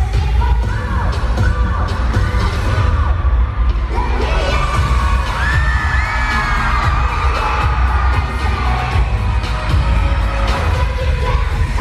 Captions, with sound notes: - Let me hear ya! (screaming crowd)